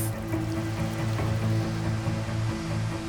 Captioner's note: rain pattering; uplifting music